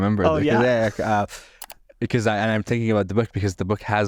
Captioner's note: keystrokes clicking